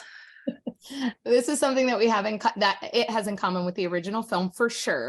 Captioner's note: laughs